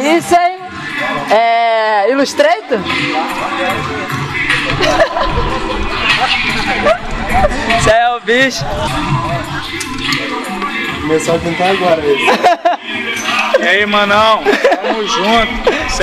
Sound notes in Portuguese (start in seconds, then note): 4.7 risos; 12.2 risos